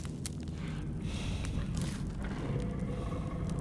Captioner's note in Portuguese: rosnado